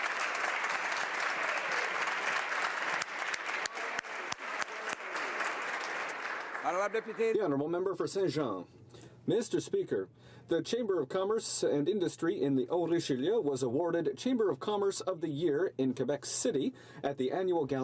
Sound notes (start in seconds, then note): 2.7 applause